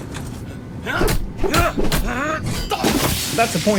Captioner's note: weapons clashing